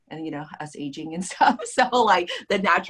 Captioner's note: laughs